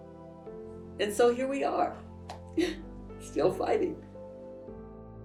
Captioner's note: sighs